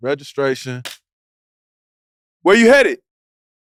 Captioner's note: claps